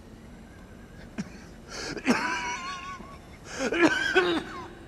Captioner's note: coughing